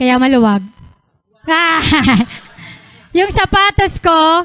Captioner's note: laughter